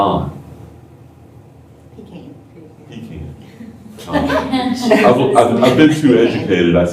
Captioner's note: laughter